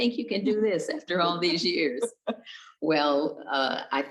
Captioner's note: chuckles